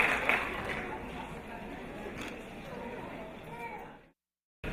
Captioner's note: audience chattering